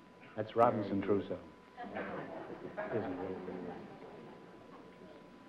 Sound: whispering

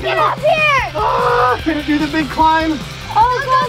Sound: screams

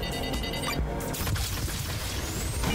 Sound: beeping; lasers firing

